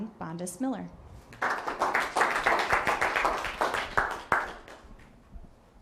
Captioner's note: applause